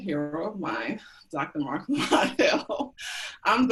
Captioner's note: laughs